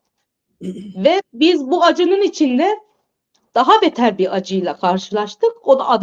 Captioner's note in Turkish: boğazını temizler